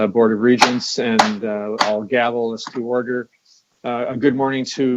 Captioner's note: gavel banging